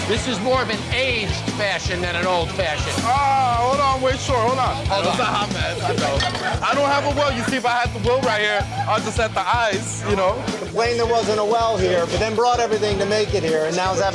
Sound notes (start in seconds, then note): 4.6 crowd talking loudly